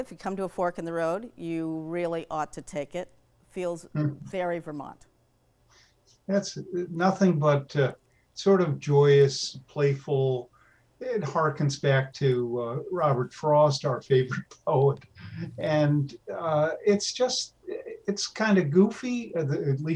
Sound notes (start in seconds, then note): 15.2 laughs